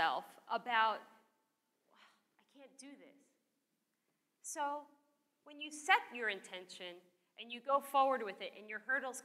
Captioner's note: sigh